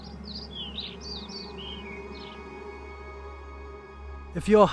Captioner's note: birds chirping